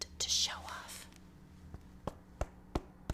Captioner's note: ASMR hand tapping sounds